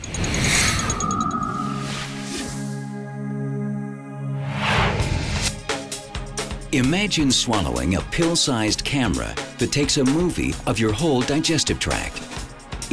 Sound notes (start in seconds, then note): 0.0 whirring; 0.0 ticking; 1.5 mellow music; 4.5 whooshes; 5.6 uptempo electronic music